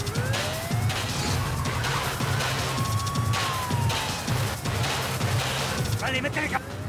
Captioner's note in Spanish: siguen sonando las sirenas; sirenas y disparos